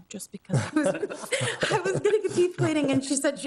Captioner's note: Committee laughing